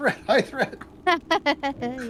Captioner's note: laughs